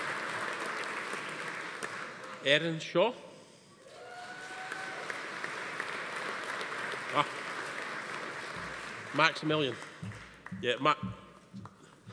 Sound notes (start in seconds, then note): 3.9 attendee cheering; 3.9 audience applauding